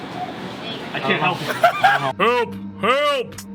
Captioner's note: Skull laughs